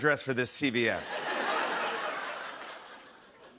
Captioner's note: laughter